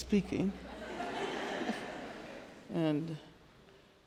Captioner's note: audience laughing